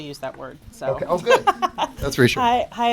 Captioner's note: laughter